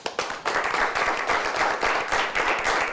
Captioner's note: applause